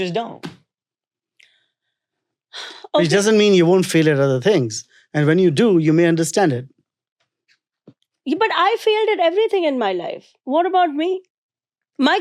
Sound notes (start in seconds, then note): 0.3 hands thumping; 2.8 sighs